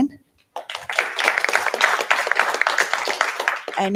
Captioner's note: applause